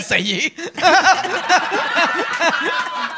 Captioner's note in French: rires